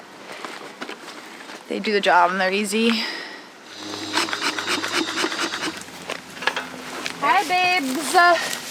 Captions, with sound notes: They do the job and they're easy. (bee smoker hissing) Hi babes.